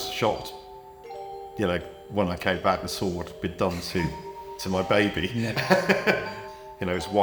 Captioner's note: laughs